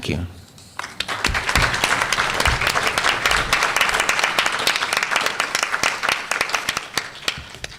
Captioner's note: applause